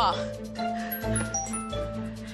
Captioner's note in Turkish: Mesaj sesi